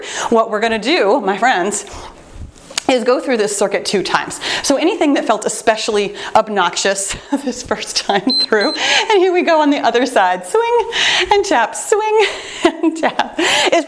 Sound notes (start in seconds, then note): 8.2 timer beeps